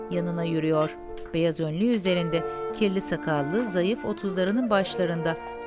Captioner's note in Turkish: Ayak sesi